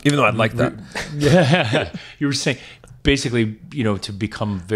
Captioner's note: chuckling